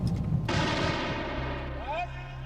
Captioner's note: gun fires; man shouts in foreign language